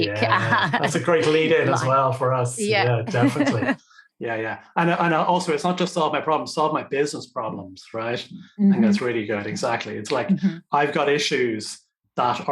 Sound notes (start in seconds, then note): 0.0 laughing; 2.8 laughs